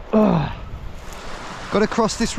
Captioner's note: grunts